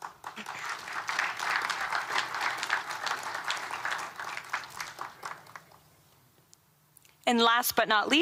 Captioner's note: applause